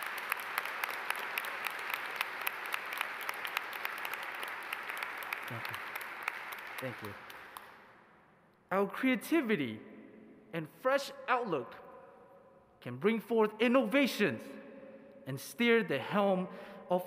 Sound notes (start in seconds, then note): 1.8 applause